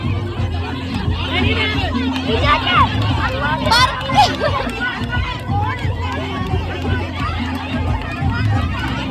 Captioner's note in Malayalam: കരഘോഷം